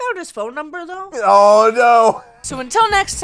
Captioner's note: laughs